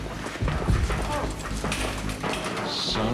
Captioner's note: gagged shouting